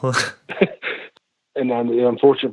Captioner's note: laughs